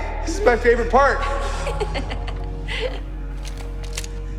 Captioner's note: laughter